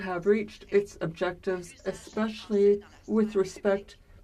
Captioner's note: speaking french